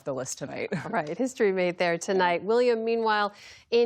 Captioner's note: laughter